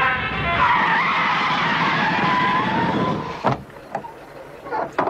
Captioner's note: screeching